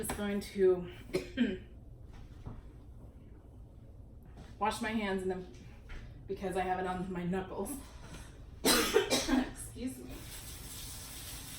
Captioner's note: coughs